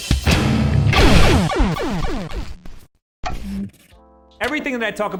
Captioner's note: gritty rock music; electronic video game effects